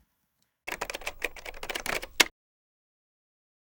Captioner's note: typing